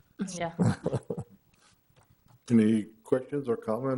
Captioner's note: chuckles